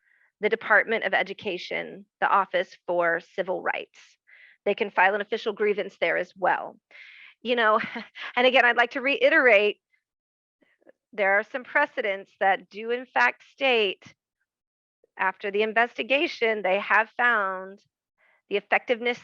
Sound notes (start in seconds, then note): 7.8 soft laugh